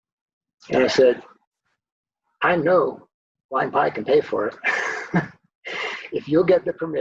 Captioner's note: laughs